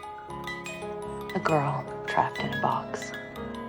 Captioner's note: voiceover